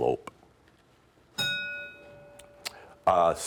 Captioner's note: ding